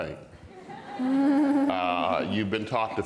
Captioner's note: audience and panel laughs